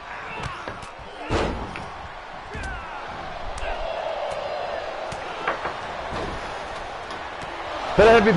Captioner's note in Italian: Applauso